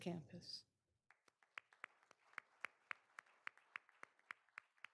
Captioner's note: all applauding